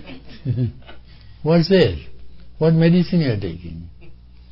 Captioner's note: laughter